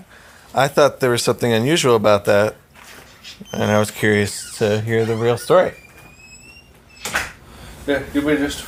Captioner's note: door shuts